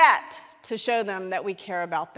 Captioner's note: none